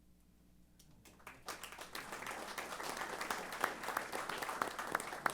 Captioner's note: applause